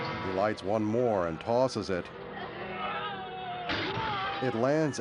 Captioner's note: groaning